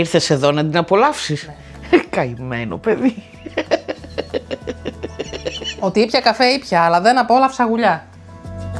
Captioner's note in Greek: γέλια